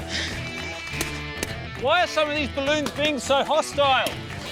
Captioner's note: pop!